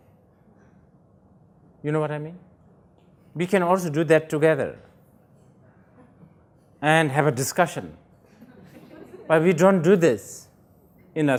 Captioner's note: laughter